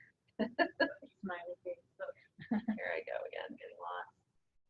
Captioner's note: speaking away from mike